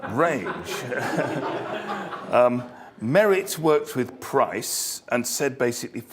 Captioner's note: laugh